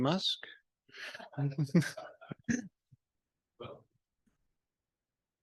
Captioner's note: panel laughs